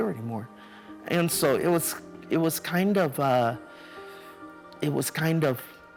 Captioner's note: sighs